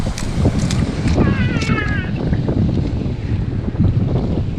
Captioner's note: screaming